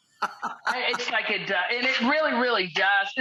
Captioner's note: laughs